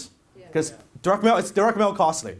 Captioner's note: audience says yes